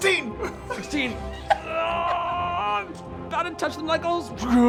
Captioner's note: groans